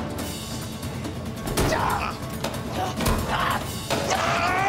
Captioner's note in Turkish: Tekme sesi; Bağırma sesleri